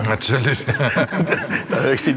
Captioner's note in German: Lachen